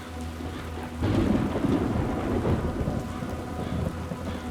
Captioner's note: thunder booms